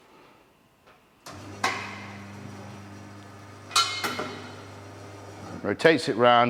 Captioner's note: tyre machine buzzing loudly